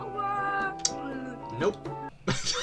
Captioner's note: lipsmack2; sobs more; laughs in funni